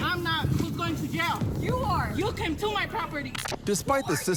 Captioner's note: twin speaking